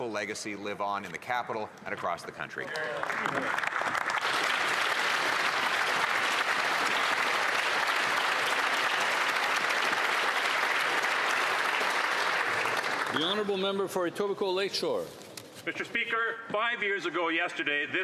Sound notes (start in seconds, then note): 12.0 applause